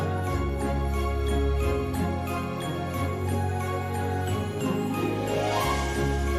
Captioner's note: jingling continues